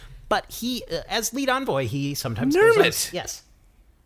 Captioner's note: shouting